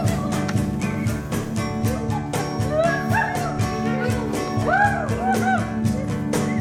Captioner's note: bird sounds and whistling over music: hawho-hahoo, who whoo-hoo